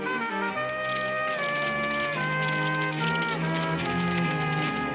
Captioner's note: hooves pattering